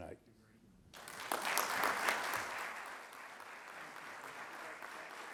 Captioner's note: audience applauding